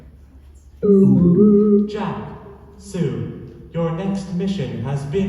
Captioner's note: computer noise